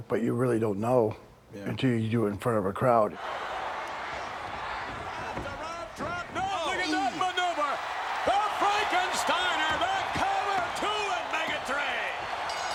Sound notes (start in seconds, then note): 3.3 crowd cheering